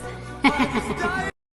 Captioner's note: echoing laughter